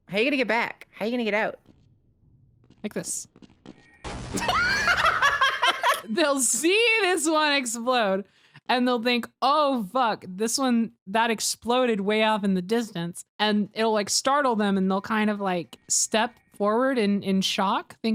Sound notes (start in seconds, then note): 4.0 explosion; 4.4 both laugh